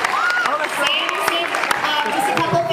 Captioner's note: applauds